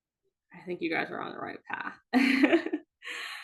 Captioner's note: laughing